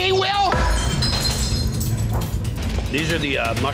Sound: glass shatters

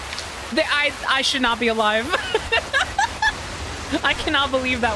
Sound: laughter

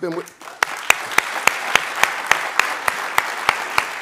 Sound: applauding

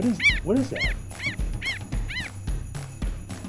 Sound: animal sounds

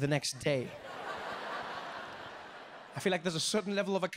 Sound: audience laughing

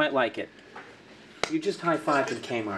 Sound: hands smack

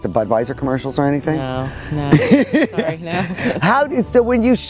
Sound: laughs

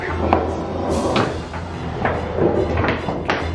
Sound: loud rustling

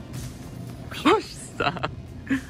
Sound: laughs

